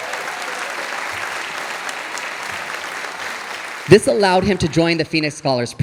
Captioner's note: audience applauding